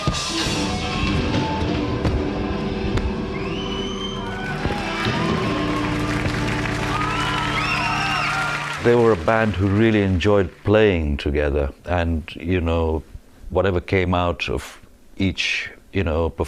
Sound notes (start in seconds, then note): 0.2 band playing; 6.5 crowd cheering